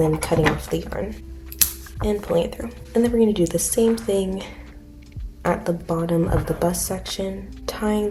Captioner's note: scissor cut sound